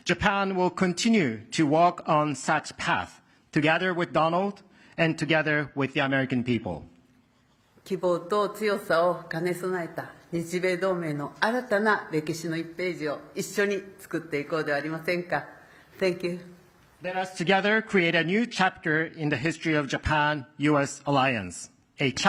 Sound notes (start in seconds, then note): 8.5 speaking Japanese